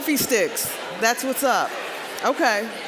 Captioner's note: general chatter